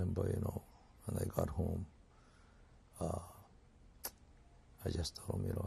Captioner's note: pauses for 3 seconds